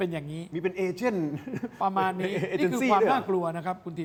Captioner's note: laughs